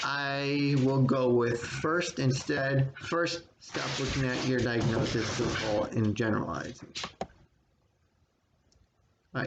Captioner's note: frequency of dog pattering increases as they play